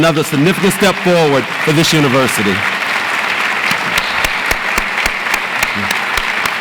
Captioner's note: audience applauds